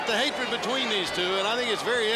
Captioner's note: crowd chatter